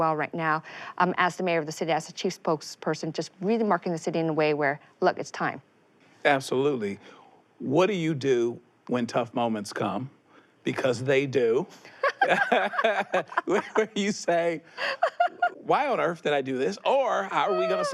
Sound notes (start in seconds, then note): 11.9 both laughing; 14.7 she laughs